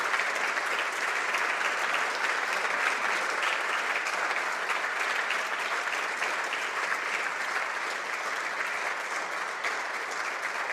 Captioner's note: some applause